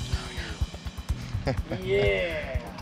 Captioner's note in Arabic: همسًا; الجميع يضحكون